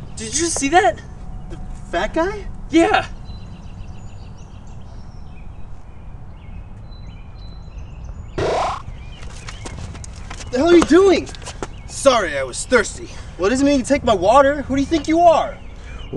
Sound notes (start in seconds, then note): 8.4 teleporting noise